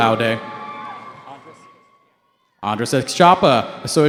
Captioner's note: cheering